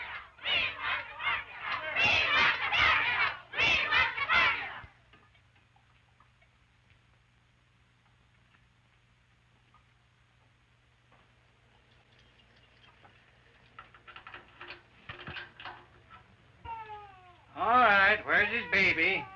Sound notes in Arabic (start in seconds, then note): 13.8 خشخشة البوابة; 16.6 بكاء الطفل